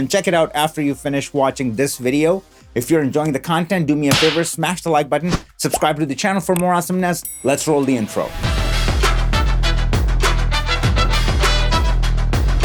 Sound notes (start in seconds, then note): 7.2 bell dinging; 8.9 energetic, upbeat music